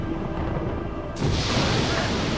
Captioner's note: thunder crashing